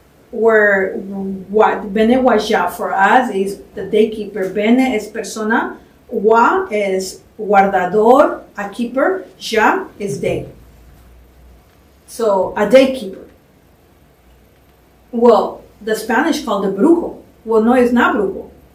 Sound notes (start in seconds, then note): 1.9 non-english; 7.4 spanish; 16.6 spanish